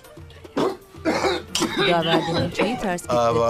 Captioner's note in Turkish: Öksürme sesi